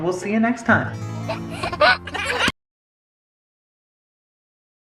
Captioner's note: baby laughs